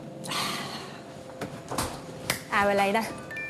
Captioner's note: sighs